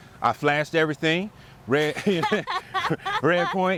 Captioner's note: laughs